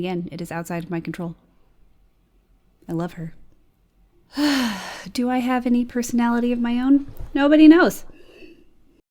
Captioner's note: sighs